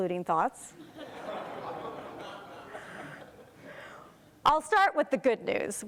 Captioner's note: crowd laughs